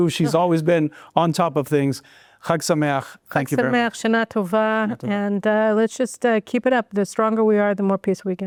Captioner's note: speaking in foreign language